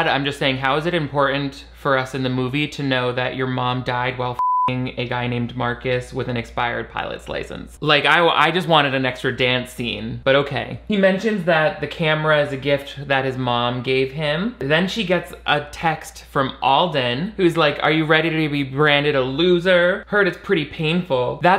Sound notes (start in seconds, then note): 4.4 beep